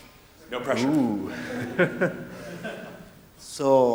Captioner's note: laughing